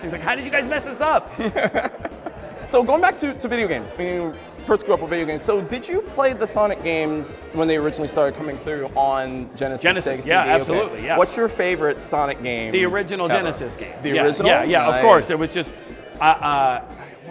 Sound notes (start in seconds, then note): 1.2 laughs